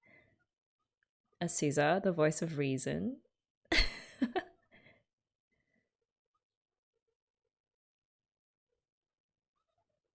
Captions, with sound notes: Azusa, the voice of reason. [laughs]